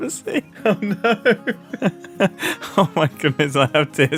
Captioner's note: laughs